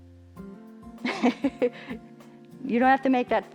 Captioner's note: chuckles